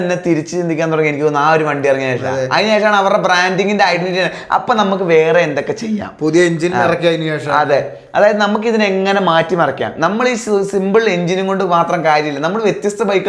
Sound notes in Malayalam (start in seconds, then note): 6.3 തൊണ്ട ശരിയാക്കുന്നു